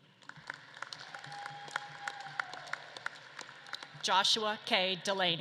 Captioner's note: audience claps and cheers